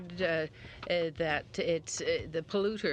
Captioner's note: speaking French